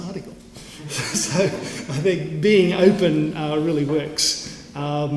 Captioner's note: laugh